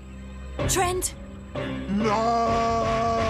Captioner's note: slow motion scream